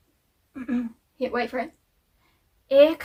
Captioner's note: clears throat